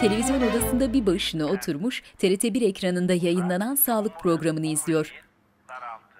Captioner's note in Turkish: Televizyon ses